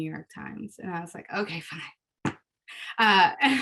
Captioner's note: laughs